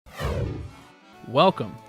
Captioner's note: sound Effects